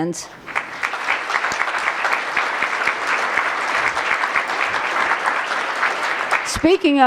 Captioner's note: applause